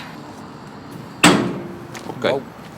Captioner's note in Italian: Clank